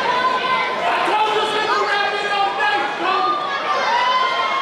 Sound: crowd yelling

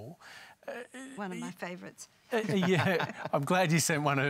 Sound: chuckles

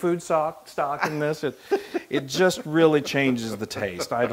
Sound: laugh

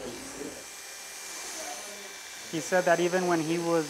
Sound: buzz

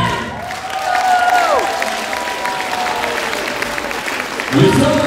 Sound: applause

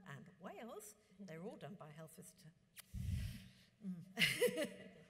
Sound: smacks lips; laughs

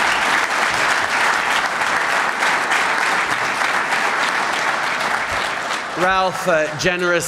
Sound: applause

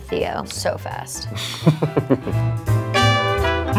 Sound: laughing

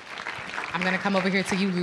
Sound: applause

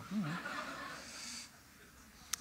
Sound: audience: Cachinnating

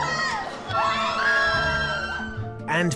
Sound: girls screaming

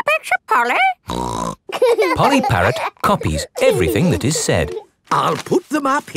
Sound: laughing

